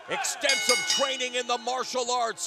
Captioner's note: bell ringing